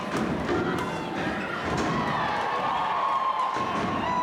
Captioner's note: floor thudding